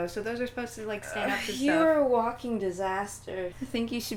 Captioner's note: groan